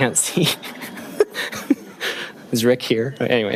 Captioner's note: laughing